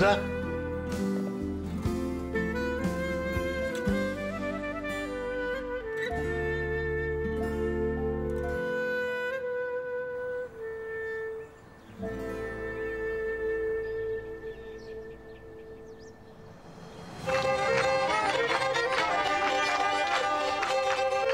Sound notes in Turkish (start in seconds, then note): 12.0 Kuş Sesleri; 17.1 Kemençe Çalıyor